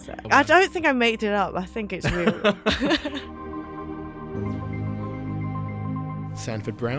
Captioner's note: voiceover